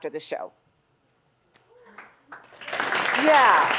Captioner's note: audience applauds